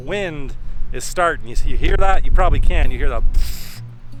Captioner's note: makes wind sound